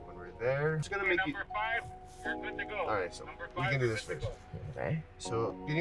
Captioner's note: radio